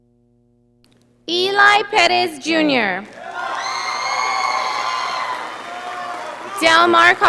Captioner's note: audience applauding